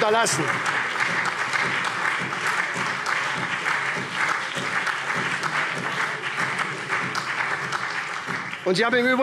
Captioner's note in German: Beifall SPD und DIE LINKE